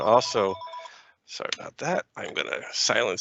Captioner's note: phone ringing